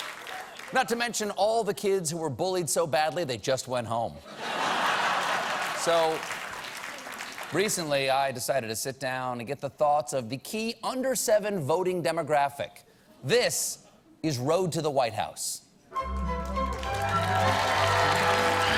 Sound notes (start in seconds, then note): 5.1 applause